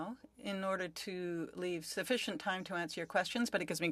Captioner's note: speaking French